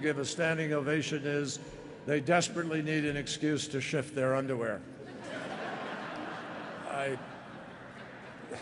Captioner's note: laughter